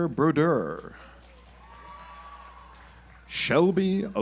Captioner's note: audience applauds